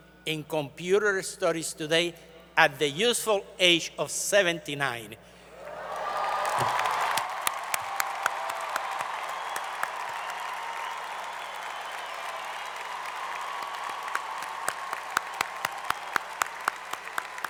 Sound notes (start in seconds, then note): 5.6 applause